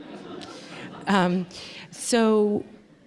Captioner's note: laughter